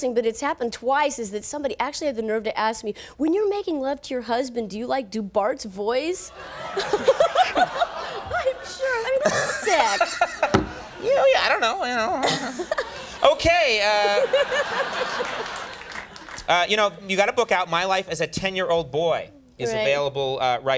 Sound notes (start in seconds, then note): 6.3 audience laughs; 6.4 Nancy laughs; 9.2 Conan laughs; 12.1 Nancy laughs; 14.8 audience laughs